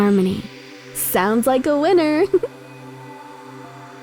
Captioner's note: laughs